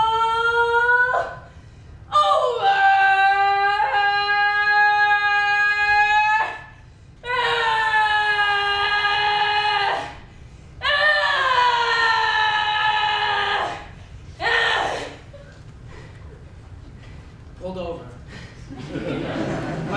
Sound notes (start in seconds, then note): 7.2 screams; 18.4 audience laughs